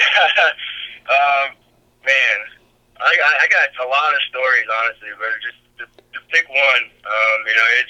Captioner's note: laughs